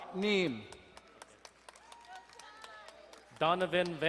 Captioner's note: crowd cheering and applauding